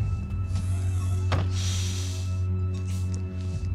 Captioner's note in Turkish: Kapı kapanma sesi